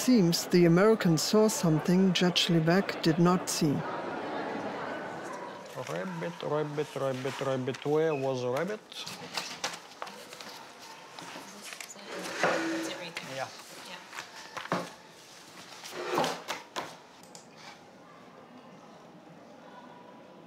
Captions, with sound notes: It seems the Americans saw something Judge Levesque did not see. - Rabbit, Rabbit, Rabbit, Rabbit, where was Rabbit? (papers rustling) - Is that it? (chair scraping) That's it right there. - Yeah. - Yeah. (chair scraping) (papers tapping on desk)